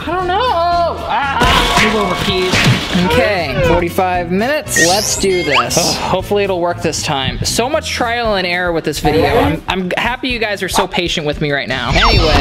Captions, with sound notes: I don't know. (screaming) (slamming and banging) Okay, 45 minutes. Let's do this. Hopefully it'll work this time. So much trial and error with this video. I'm happy you guys are so patient with me right now.